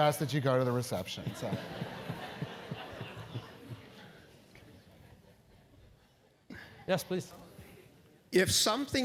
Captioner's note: laugh